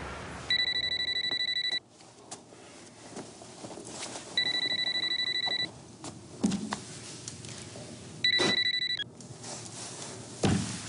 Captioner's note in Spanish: Suena el celular